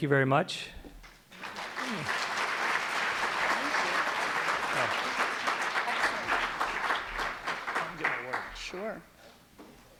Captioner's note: applause